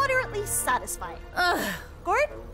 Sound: sigh

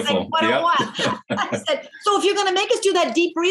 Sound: laughing

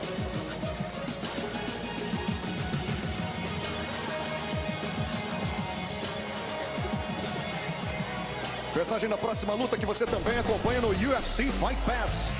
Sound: speaking foreign language

